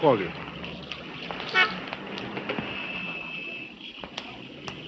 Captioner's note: horn blaring